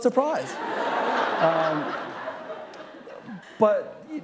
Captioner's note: laughter